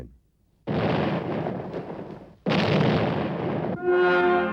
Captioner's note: explosions; dramatic music